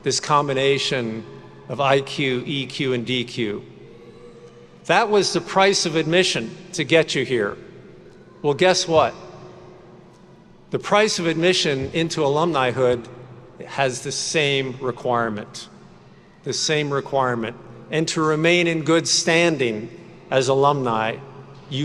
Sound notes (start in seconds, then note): none